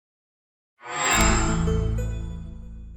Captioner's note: chime